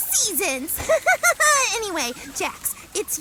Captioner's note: laughs heartily